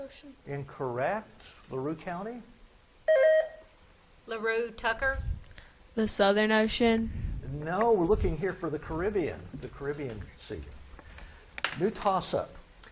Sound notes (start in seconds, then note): 3.1 buzzer beeps